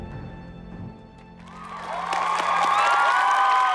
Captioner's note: applause